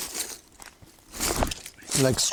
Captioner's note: rustles